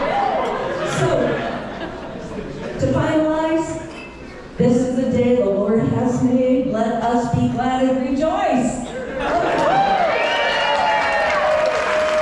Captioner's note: applause